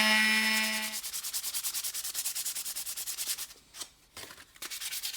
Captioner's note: rubbing sound